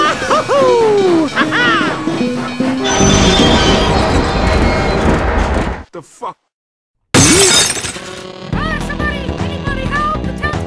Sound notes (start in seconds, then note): 2.8 screeeeeeeeeeeeeeeeeeeeeeeeeech; 7.1 smash